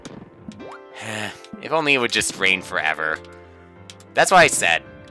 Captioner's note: sigh